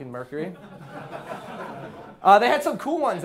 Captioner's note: class laughing